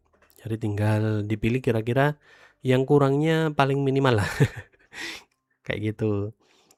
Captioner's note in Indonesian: tertawa